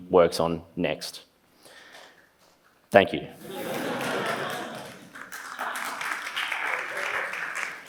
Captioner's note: laughs; applause